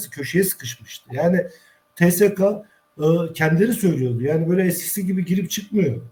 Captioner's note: tsk